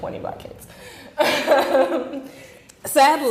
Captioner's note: chuckling